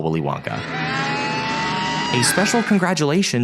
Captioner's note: wonka screams